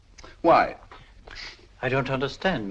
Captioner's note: none